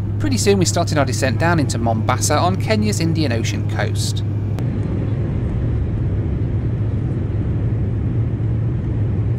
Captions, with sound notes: Pretty soon we started our descent down into Mombasa on Kenya's Indian Ocean coast. (plane engine roaring)